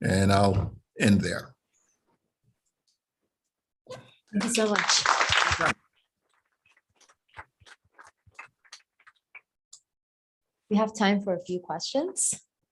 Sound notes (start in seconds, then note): 6.7 applause